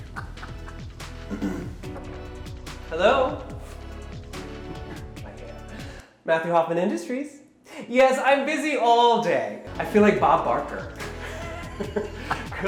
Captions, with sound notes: (scoffing) Hello? My hair. Matthew Hoffman Industries. Yes, I'm busy all day. I feel like Bob Barker. (chuckling)